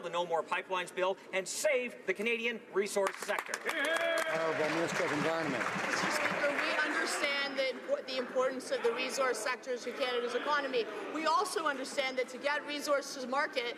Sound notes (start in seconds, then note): 6.6 some Applause